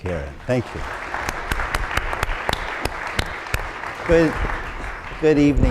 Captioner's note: applause